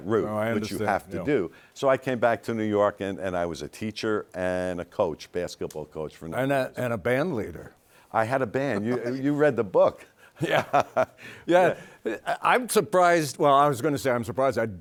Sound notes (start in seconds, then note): 11.2 laughs